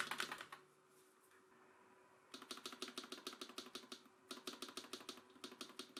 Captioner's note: sudden typing sound comparison